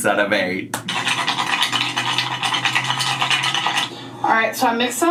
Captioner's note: wontons clinking in mug